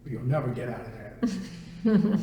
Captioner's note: laughter